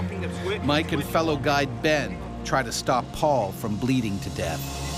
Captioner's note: voiceover